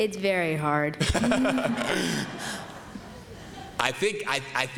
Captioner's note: laughter